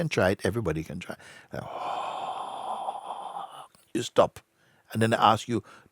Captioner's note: exhales